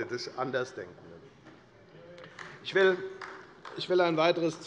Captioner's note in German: Beifall bei der FDP